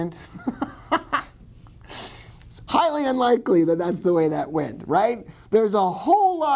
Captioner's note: laughs